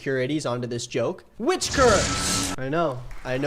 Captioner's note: lightning crackles